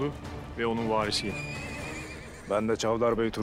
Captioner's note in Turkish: At kişneme sesi